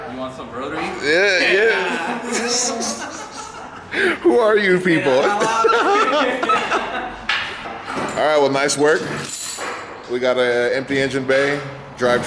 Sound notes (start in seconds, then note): 1.6 laughter